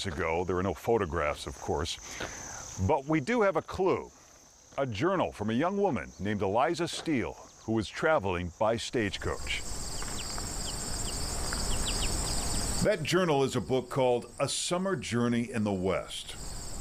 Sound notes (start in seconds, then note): 12.6 birds chirping